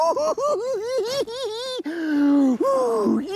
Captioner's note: laughs